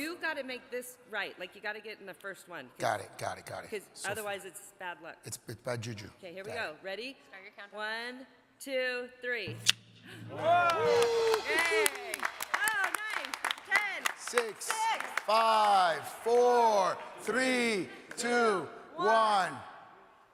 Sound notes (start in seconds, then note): 10.2 audience cheering